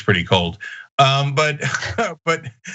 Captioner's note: laugh